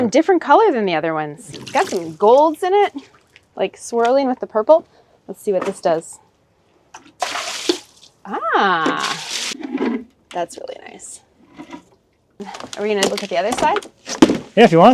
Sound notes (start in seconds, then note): 7.1 liquid splashing